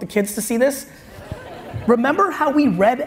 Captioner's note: audience laughs